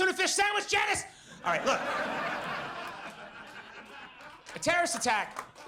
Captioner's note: audience laughs